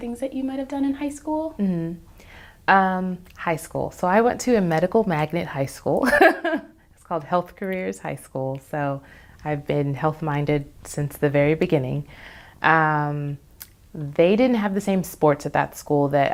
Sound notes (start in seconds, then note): 6.2 laughs